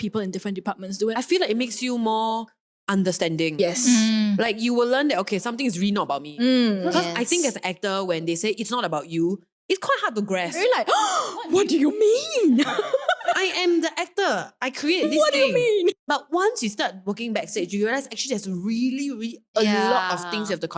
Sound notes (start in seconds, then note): 10.9 gasp